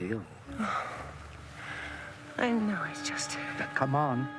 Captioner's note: sighs